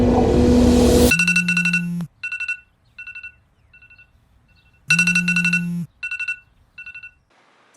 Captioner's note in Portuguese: alarme